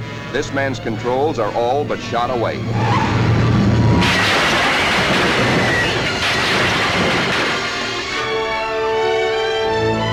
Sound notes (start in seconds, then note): 3.5 crunching metal sounds followed by triumphant music